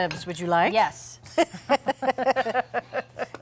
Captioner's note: both laughing